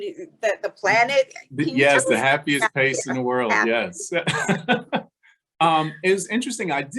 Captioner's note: laughing; laughing